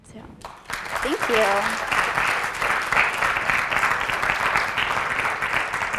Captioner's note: applause